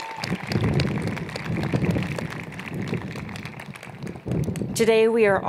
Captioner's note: cheers and Applause